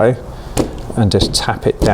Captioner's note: seed tray banging